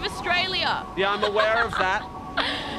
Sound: laughs

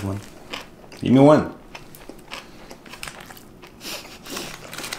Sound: both snicker

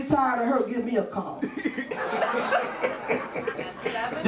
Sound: audience laughs

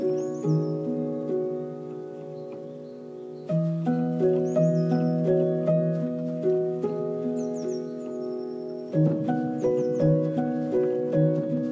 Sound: gentle music; birds chirping

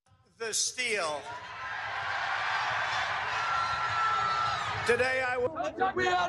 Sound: applause

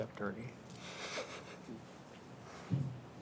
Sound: laughing

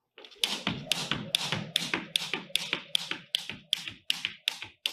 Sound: floor clicking and tapping

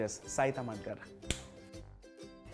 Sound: finger snaps

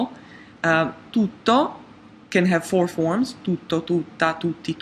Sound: speaks in a foreign language

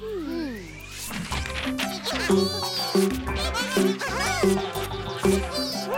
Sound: Bongalalas laughing

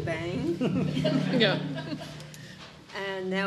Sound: audience chuckling

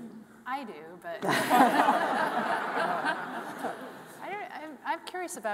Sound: all laughing

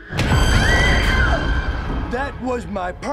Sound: screaming

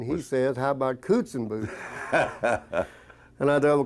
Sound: laughing

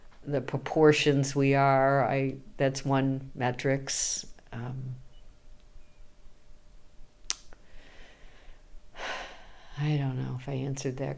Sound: sighs

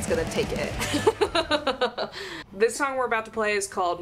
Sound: laughing

